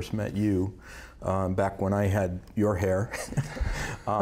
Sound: laughs

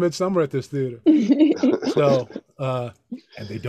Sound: laughing

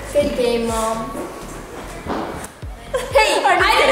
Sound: both giggling

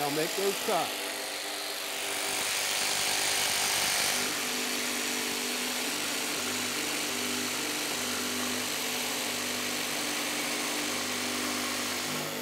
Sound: jigsaw buzzes

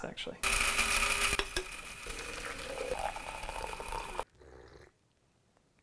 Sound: coffee grinding; coffee pouring; sip

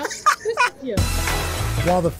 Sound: laughter

